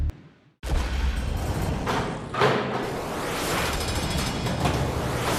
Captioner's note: vault doors rattling